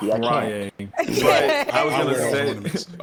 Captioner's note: all laughing